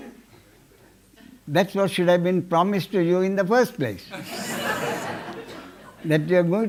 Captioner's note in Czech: smích